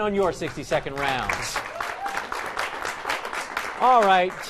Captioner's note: applause